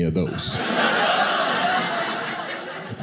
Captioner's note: audience laughing